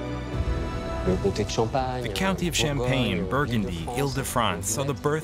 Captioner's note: speaking French